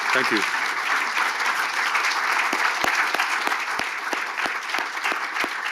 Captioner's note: audience applauding